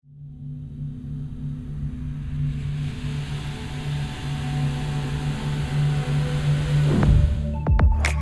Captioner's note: fade in sound